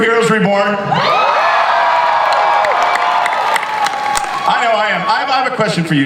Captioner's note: audience cheers